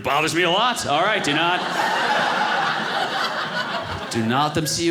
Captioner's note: audience laughing